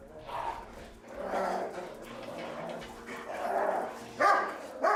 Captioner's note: dogs growling and barking